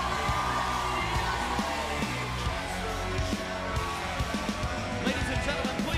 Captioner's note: cheers and applause